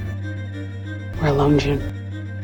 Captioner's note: voiceover